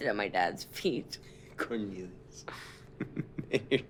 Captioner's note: chuckles